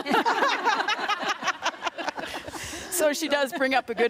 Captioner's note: group laughing